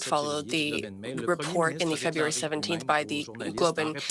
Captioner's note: speaking French